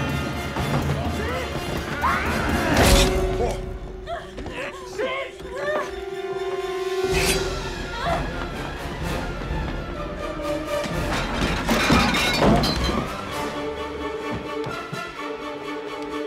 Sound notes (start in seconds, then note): 1.8 screaming; 10.6 clanking